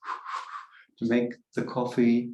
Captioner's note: blows several times